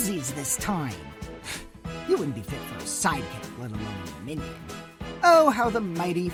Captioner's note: scoff